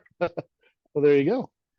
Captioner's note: laughter